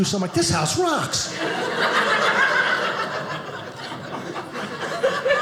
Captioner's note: audience laughing